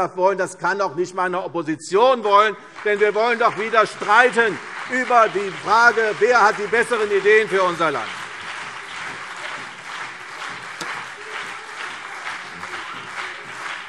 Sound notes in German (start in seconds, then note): 8.4 Beifall CDU und BÜNDNIS 90/DIE GRÜNEN